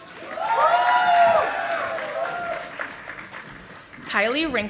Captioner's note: audience applauding